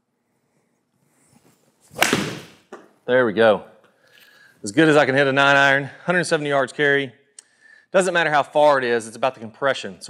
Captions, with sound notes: (golf ball cracks) There we go. As good as I can hit a 9 iron, 170 yards carry. Doesn't matter how far it is, it's about the compression.